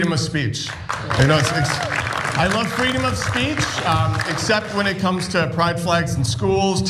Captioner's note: applause